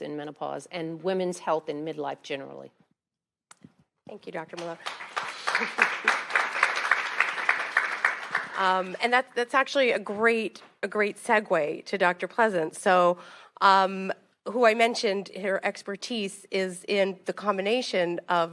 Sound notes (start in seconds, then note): 4.5 attendees clapping